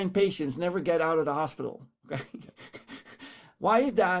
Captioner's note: chuckles